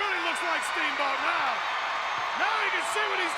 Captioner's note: crowd cheers